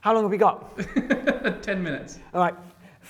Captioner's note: laughing